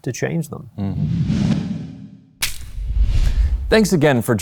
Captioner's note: logo whooshes and clacks